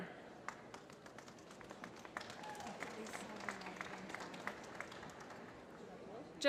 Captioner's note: applause